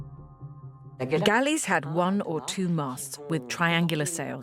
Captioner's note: voiceover